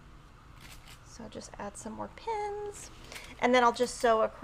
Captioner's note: high-pitched speaking